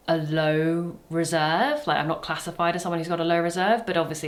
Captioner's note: none